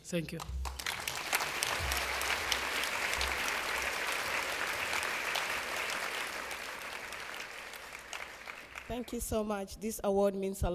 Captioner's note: applause